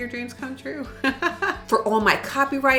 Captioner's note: laughing